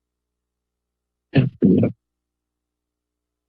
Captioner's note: microphone rustling